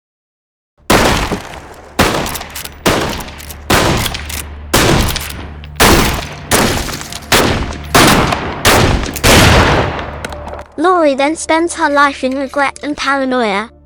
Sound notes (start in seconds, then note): 0.8 gunshots